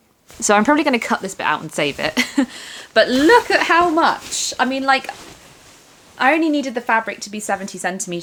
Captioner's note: laughter